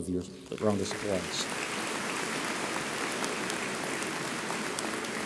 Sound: audience applauds

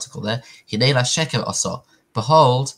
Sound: Hebrew

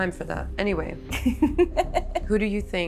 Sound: laughs

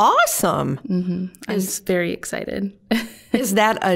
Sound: chuckling

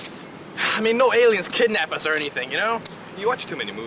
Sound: sighs

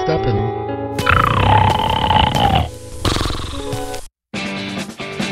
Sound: Stephanie snoring

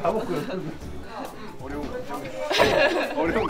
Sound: laughs

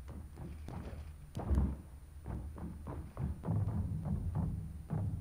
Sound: running sounds

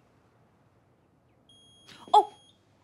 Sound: oven timer dinging

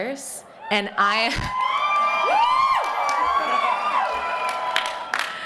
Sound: cheering

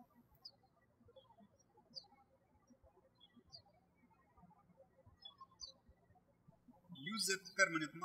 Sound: birds chirping

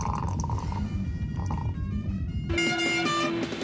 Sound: horn honks

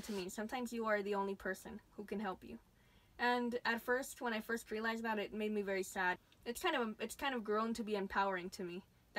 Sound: none

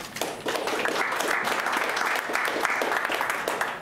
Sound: clapping

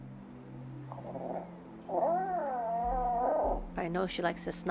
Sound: cat growling

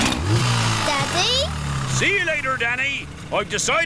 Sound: engine starts

